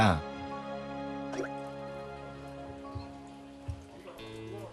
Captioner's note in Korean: 뽀글